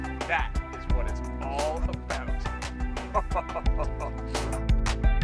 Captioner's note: laughing